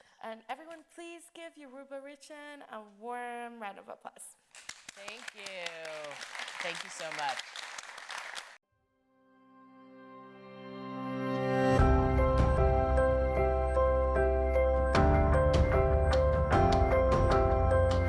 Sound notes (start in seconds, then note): 4.5 audience applauding; 9.1 bright upbeat music resumes